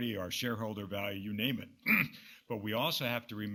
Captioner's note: clears throat